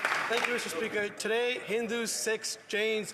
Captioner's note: applause